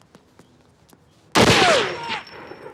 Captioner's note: gunshot